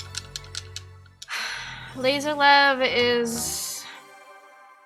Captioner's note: sigh